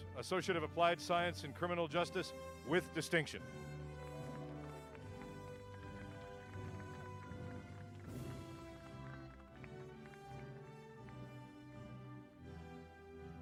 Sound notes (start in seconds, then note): 4.2 applause